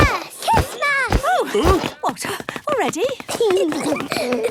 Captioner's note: exclamations; giggling